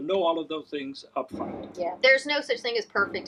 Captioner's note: large metal banging loudly